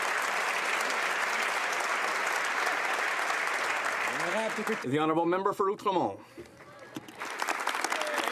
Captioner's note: some Applause